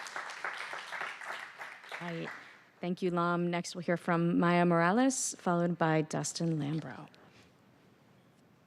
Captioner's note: applause